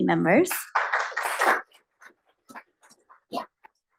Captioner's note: applause